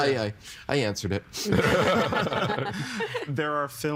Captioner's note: all laughing